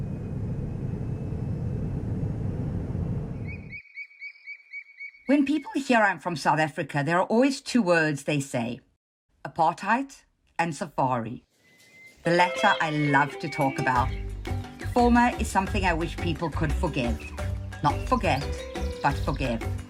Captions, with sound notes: (airplane roaring) (birds calling) When people hear I'm from South Africa, there are always two words they say, apartheid and safari. The latter I love to talk about, former is something I wish people could forgive. Not forget, but forgive.